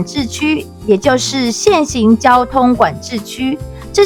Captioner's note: in Italian